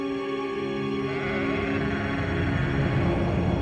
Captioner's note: sheep braying